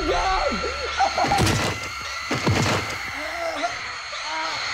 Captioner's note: bodies thud; groaning